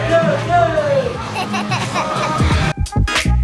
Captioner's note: laughs; quirky music